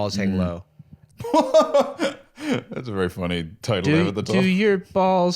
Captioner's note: laughs